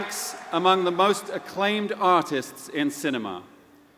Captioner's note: applause